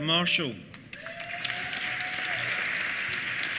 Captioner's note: applause